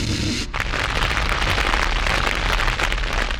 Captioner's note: flames